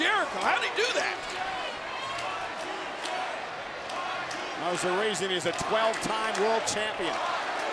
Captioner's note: applause